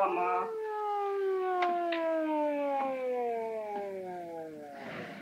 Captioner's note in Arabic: صفارة الإنذار تتلاشى